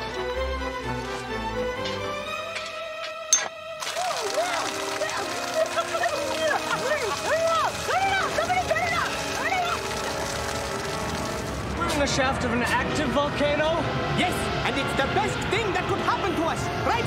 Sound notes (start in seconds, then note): 2.5 clink!; 3.8 water Splashing; 5.3 gagging